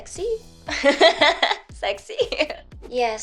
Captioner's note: laughs